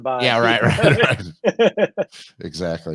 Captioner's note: laughs